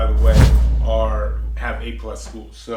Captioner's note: whoosh